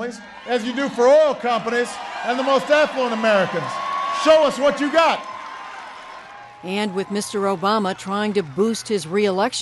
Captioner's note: cheering and applause